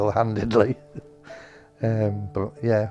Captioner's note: laughs